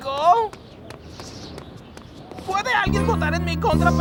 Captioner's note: echoing